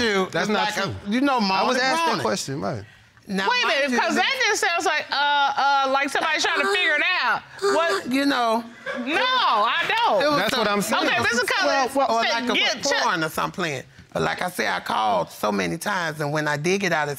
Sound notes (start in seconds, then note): 7.5 moaning